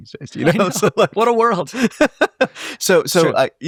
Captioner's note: laughing